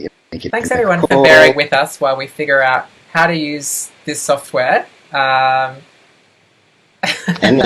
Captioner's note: laughs